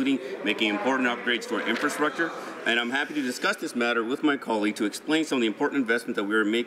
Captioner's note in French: voix de l'interprte